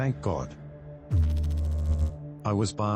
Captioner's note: electrical noise